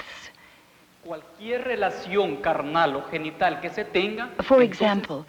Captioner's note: speaking Spanish